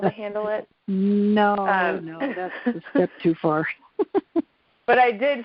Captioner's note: laughs